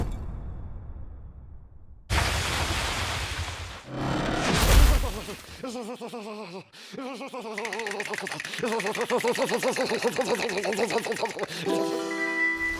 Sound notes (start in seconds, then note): 4.3 walls creaking; 5.4 loudly shivering; 7.3 teeth chattering